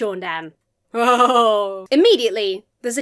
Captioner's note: laughs mischievously